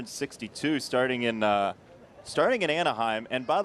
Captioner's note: laughter